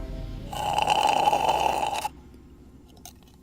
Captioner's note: sucking sound